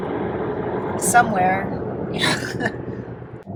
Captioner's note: laughs